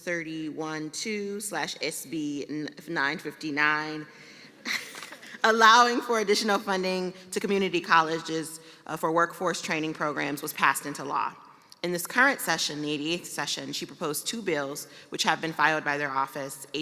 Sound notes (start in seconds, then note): 4.6 laughter